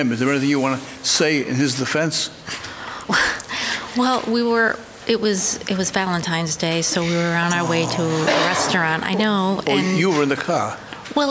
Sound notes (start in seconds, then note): 3.0 gasps